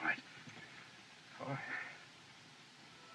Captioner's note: sighs